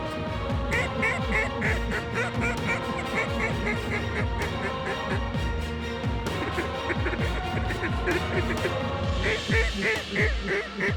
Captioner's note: duck calls